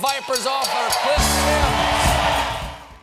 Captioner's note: cheers and applause; band playing